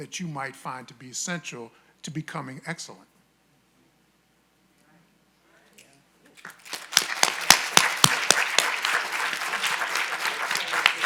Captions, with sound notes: that you might find to be essential to be becoming excellent. (audience applauding)